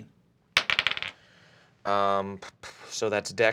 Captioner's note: dice bouncing